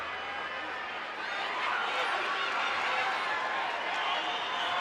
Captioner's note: crowd clamors